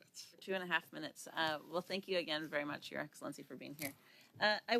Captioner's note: speaking French